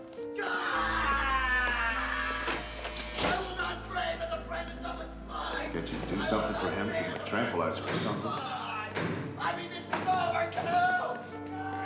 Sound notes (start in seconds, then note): 0.3 screaming; 1.1 buzzing; 9.3 screaming